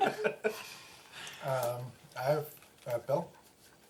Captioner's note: laughs